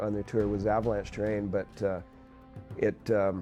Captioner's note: voiceover